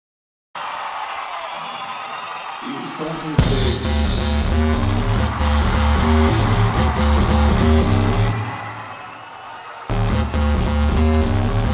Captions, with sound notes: (audience cheering) - You fuckin' pigs. (hard rock music)